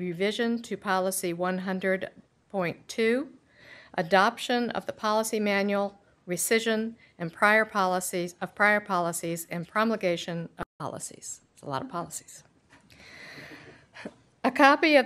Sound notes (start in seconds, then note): none